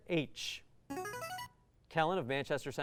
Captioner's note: buzzer